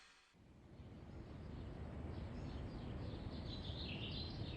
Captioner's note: birds chirp